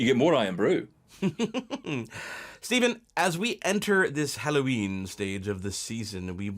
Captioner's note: laughs